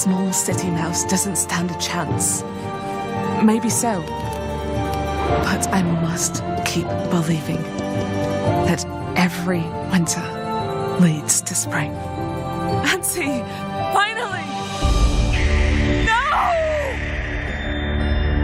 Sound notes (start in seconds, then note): 15.2 owl screeches